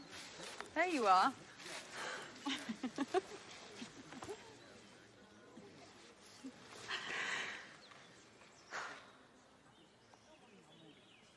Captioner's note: laughs; sighs